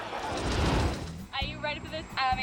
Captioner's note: audience laughing; air whoosh